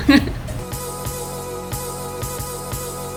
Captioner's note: laughing